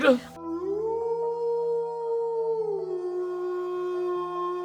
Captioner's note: werewolf howling